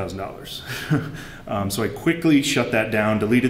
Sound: laughter

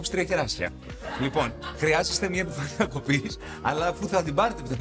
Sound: laughs

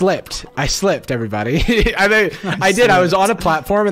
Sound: laughs

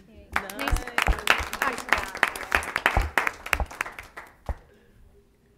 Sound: applause

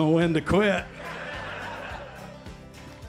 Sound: laughter

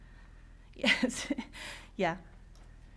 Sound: laughs

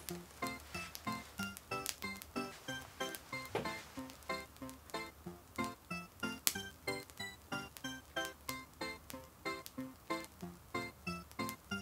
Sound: fire crackles

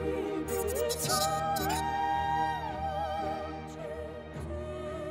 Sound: robotic beeps

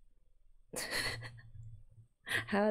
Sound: laughs

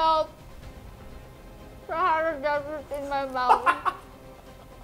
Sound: laughs

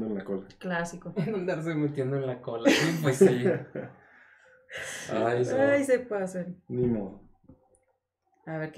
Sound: agreeing & laughing

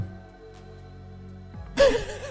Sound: wheezes

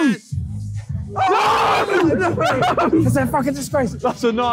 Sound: all groaning and screaming; cheering

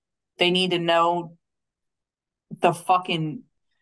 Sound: none

